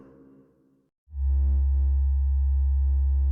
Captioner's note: space ship hum